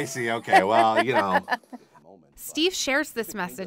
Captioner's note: laughs